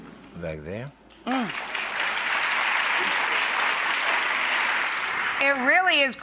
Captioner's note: audience applauds